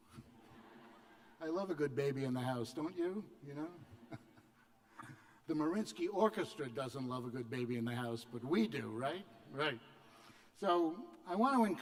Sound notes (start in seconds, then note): 1.7 laughter